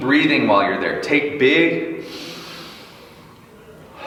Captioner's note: inhales loudly; exhales loudly